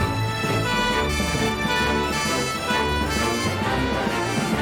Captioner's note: siren Wails